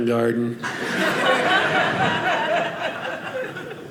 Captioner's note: audience laughing